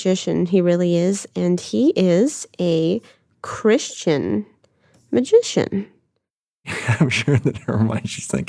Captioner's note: laughs